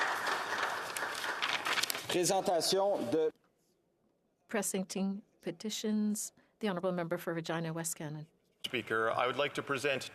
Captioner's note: some Applause